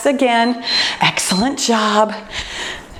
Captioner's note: timer beeps